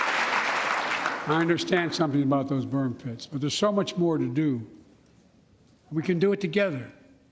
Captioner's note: applause